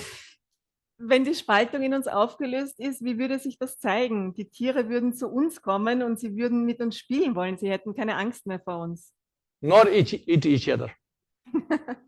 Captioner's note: German live translation